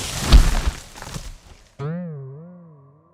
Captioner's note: loud thud